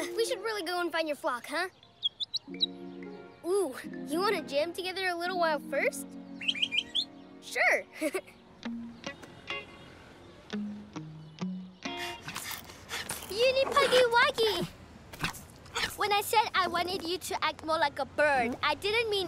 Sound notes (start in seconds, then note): 1.8 chirps; 6.2 chirps; 7.9 chuckles; 12.1 panting